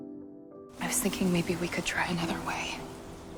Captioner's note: voiceover